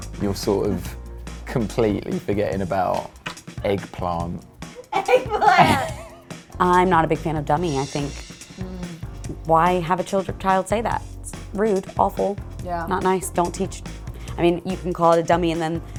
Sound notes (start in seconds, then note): 4.7 laughs